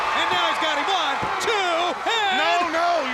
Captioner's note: hands thudding